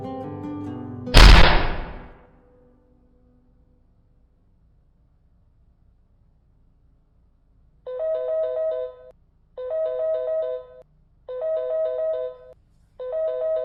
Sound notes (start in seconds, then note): 2.8 gunshot